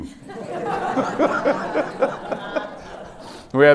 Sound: laughter

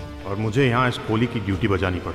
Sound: none

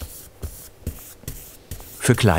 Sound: brushing

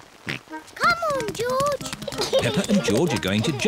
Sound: oinks; giggles

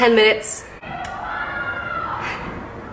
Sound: kids continue being loud

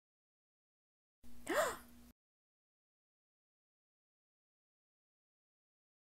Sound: gasp

